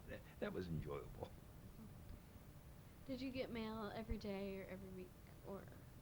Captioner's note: chuckles